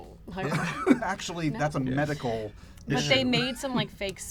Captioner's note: laughs